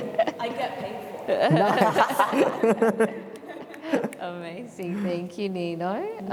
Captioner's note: laughter